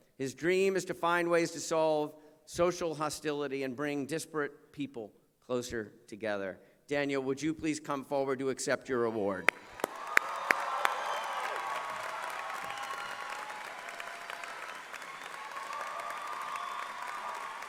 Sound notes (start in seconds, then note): 9.4 cheering and applause